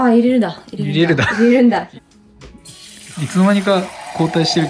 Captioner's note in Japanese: 笑い